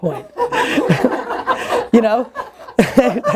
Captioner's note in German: Lachen; Lacht